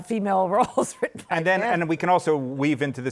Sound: laughs

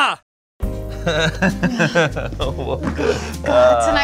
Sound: laughing

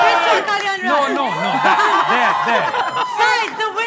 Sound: crowd barely cheers

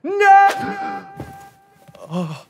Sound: gasps

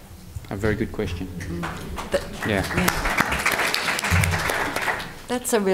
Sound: audience applause

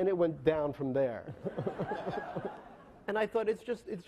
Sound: laughing

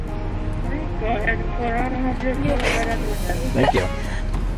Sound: woman In Speakerphone

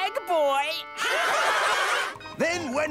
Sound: laughing

